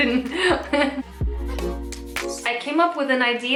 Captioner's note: laughing